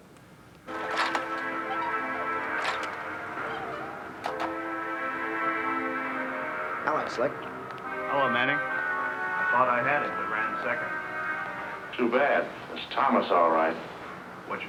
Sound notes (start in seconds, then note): 0.7 car squeaking; 0.7 tense orchestral music; 4.2 car doors click and bang